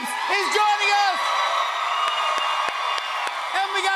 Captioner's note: cheers and applause